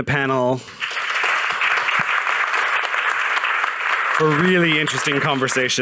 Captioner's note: audience applauding